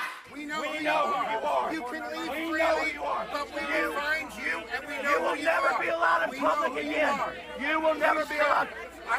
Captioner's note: chanting "no more masks"